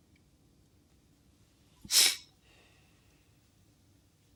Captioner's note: sniffles